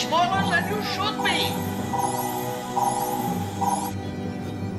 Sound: electronic beeping

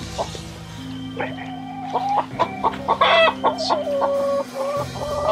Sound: feeble, pained squawking from other hens

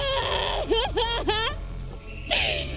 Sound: crying

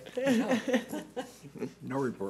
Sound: laughter

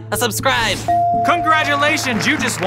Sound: ding

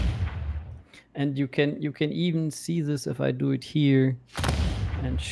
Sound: booming sound; booming sound

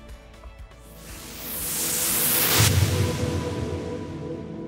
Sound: swooshing

